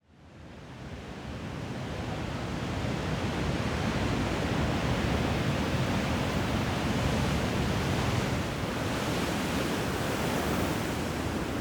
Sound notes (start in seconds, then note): 7.6 sound of waves